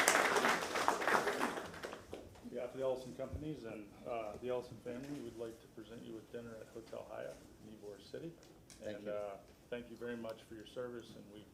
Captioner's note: applause